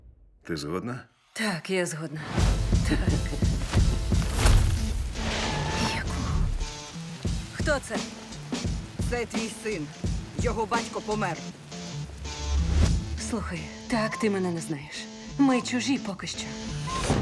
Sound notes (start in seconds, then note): 2.8 man chuckles; 5.1 brakes screech